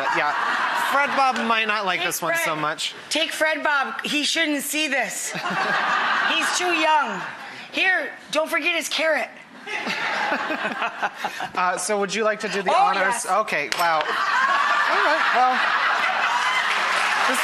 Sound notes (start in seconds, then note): 0.0 audience laughter; 5.3 audience laughter; 9.6 audience laughter; 16.0 audience laughter and clapping